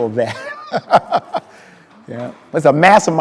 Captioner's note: speaker laughing